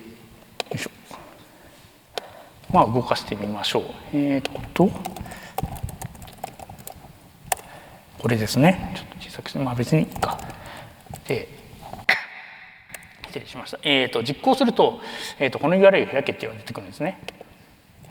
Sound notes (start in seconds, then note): 12.0 cough